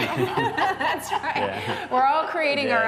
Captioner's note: laughter